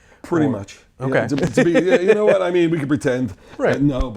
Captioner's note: laughs